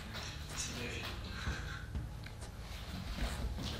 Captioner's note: laughs